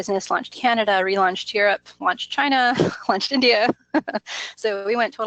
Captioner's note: laughs